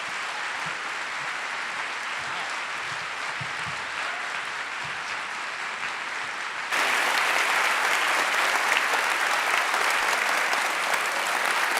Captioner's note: applause